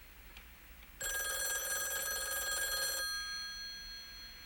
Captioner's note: ring